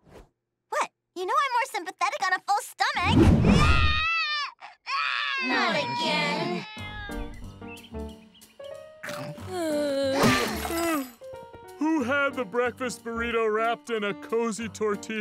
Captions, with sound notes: What? You no more sympathetic on a full stomach. [Lily crying] Not again. [yawning] Who had the breakfast burrito wrapped in a cozy tortilla